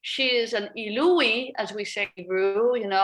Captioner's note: speaks a foreign language